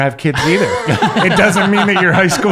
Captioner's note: laughing